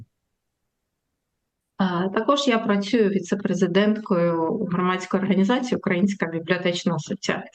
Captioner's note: foreign language